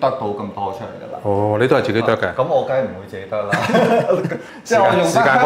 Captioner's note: ha ha ha